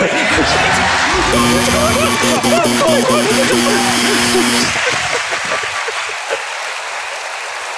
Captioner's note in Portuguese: campainha e aplausos